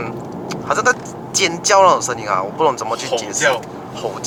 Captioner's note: roaring